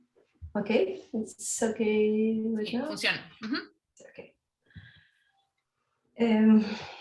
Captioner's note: speaking Spanish